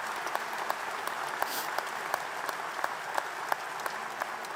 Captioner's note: applause